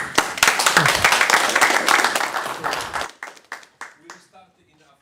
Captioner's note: applause